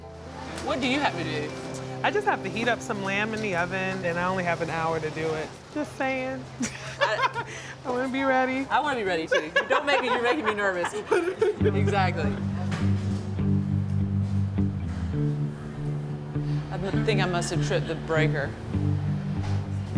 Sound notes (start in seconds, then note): 6.6 laughs; 9.3 laughs; 12.5 light guitar music